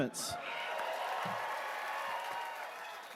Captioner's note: cheers and applause